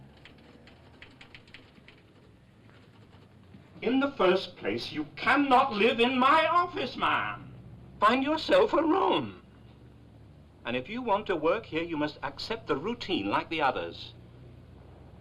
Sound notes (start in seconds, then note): 0.0 typewriter chattering; 9.2 voice shaking